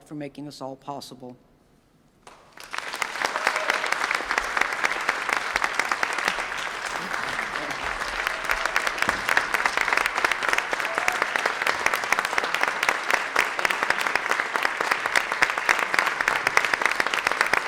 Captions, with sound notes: for making this all possible. (audience applauds) (applause continues)